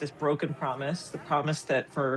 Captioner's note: none